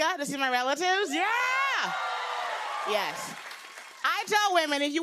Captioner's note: cheers and applause